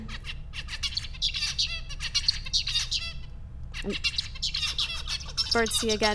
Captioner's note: bird singing